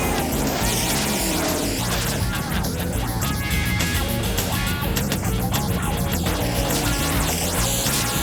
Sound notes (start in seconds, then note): 2.2 John laughs